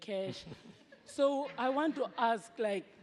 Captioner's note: laughter